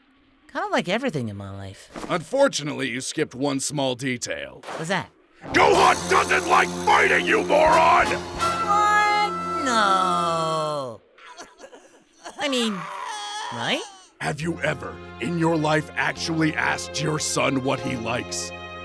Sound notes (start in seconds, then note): 8.7 in disbelief